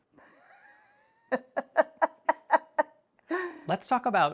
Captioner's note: laughs